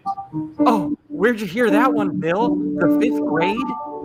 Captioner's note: scoffs